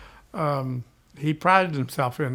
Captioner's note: none